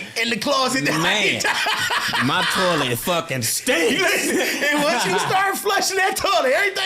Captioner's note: laughing; laughing